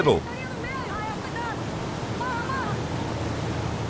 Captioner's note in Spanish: <i>habla en portugués</i>